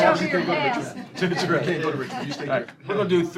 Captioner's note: laughter